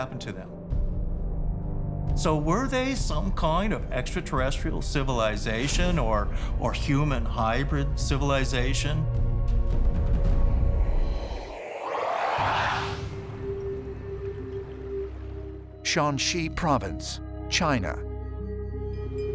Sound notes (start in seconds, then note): 0.2 ominous music playing; 10.8 otherworldly warbling; 13.0 tense music playing